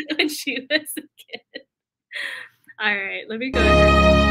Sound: laughter

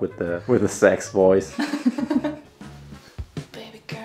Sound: laughs

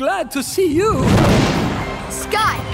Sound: thudding

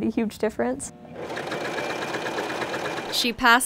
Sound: sewing machine

